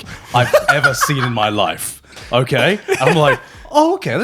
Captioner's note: laughing